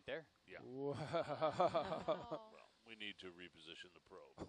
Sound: chuckles

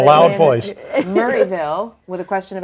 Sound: laughing

